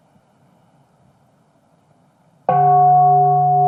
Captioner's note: bell ringing